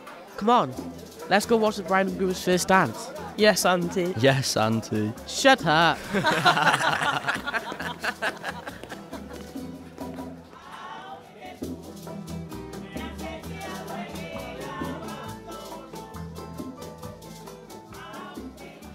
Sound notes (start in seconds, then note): 5.9 all the boys laugh. Music plays and fades out